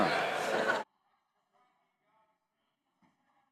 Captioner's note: laughter